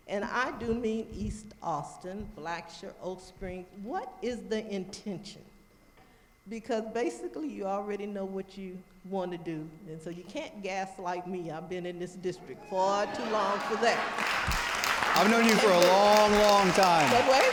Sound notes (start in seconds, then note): 12.8 audience applauding